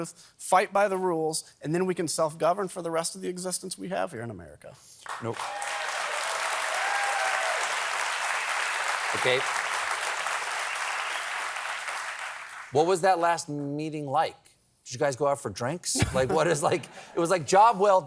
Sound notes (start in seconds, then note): 5.0 applause